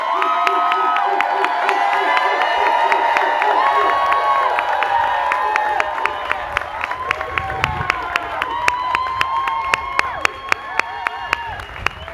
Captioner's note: cheers and applause